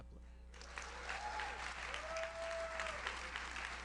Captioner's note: audience cheers; audience applauds